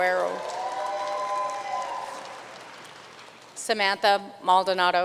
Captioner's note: audience cheering and applauding